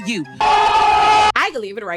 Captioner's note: screaming